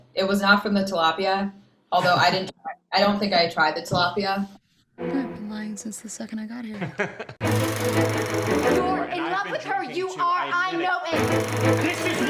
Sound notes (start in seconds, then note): 6.7 laughter